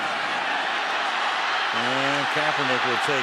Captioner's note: cheering